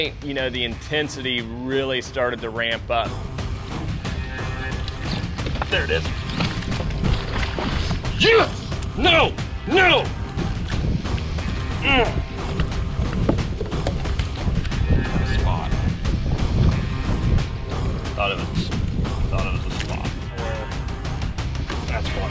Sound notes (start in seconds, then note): 4.5 rock music; 11.7 grunts